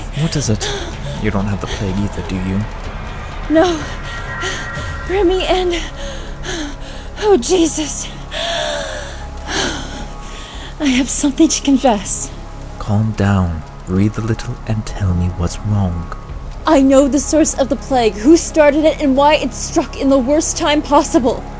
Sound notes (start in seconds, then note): 5.9 deep breath